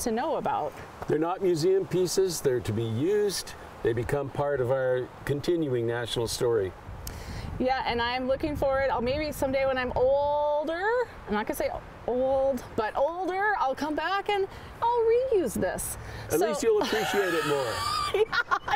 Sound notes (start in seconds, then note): 16.6 laughing